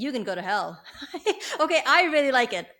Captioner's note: laughs